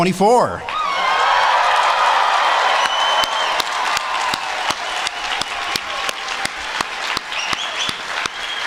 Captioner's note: applause